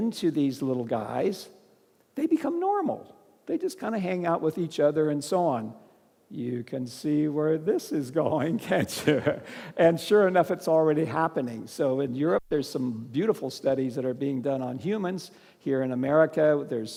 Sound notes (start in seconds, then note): 8.5 laughs